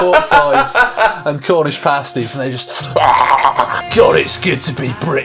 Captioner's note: gorging noises